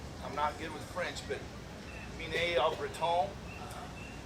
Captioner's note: speaks in French